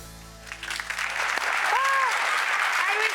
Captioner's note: audience applause